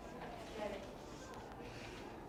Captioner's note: crowd